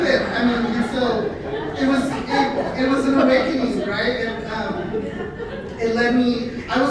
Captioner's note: laughter